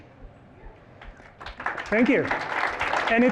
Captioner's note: applause